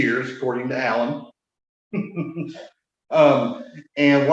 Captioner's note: laughs